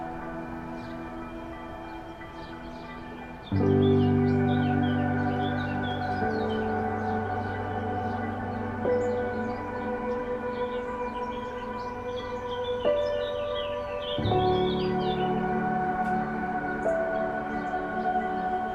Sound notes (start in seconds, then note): 0.2 calm piano music continues; 4.9 birds singing